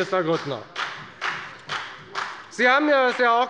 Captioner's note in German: Beifall bei der FDP